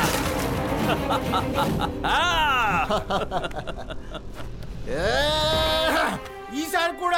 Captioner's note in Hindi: हँसी